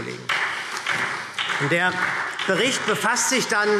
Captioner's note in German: Beifall SPD